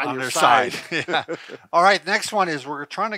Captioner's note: chuckle